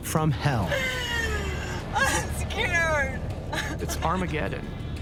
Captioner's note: sobbing